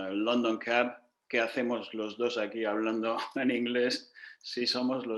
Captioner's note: in Spanish